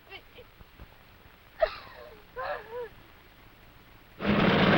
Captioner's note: sobbing; engine Whirring